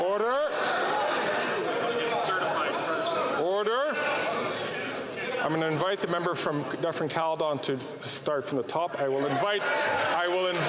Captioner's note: some Applause